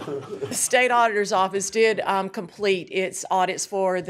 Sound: laughter

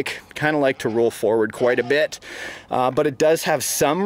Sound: none

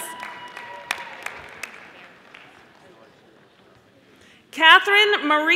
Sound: audience applauding

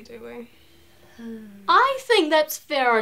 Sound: Bea sighs

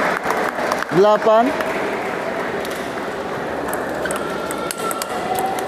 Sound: applause; applause

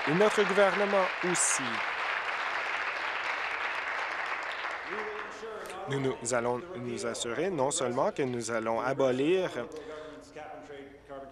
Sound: applause

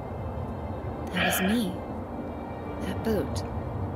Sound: sighs

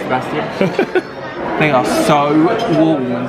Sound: laughs

